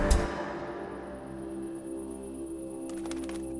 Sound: crickets chirping; bird flapping its wings and chirping

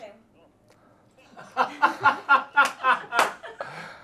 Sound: laughing

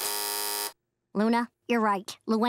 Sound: buzzing

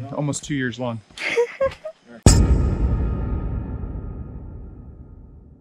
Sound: giggles

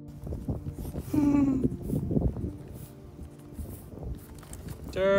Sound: laughing

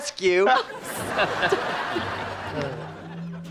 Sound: chuckles

